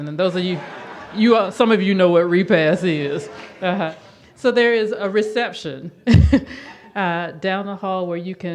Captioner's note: audience laughs